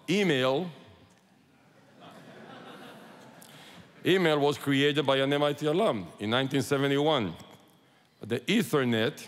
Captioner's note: laughter